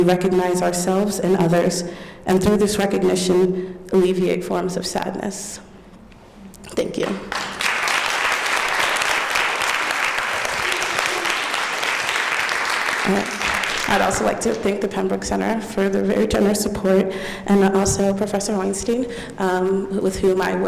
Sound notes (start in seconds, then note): 7.0 applause